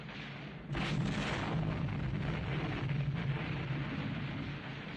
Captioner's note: loud Explosion